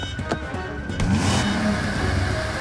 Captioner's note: engine revving